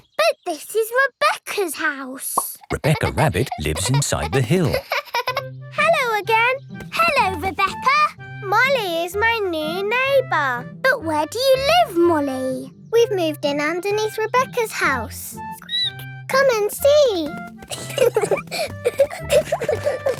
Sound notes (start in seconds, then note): 4.9 laughing; 16.7 squeaks; 17.6 both laughing